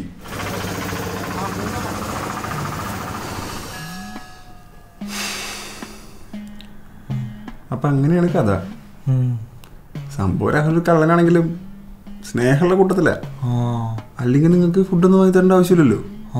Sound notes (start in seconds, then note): 0.3 Traffic; 5.0 exhaling